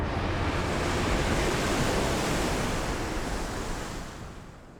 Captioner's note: waves crashing